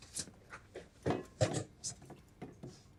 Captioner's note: bowl clattering